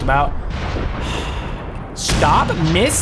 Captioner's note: sighs